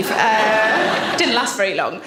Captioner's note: audience laughs